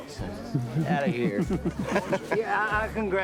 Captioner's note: laughing